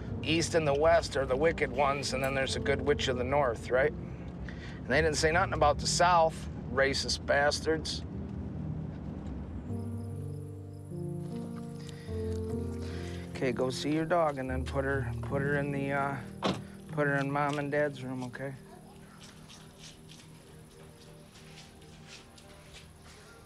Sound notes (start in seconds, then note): 7.9 tender music continues; 9.6 crickets chirp; 20.0 wistful pop music